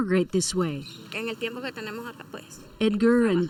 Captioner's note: speaking Spanish